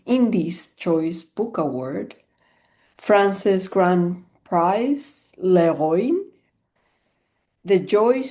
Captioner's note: french